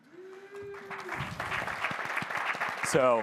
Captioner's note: applause